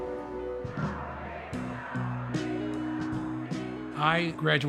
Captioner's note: bright music; crowd chanting